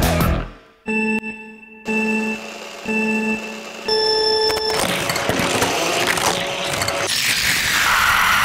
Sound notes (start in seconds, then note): 0.8 timer droning; 4.5 wheels whirring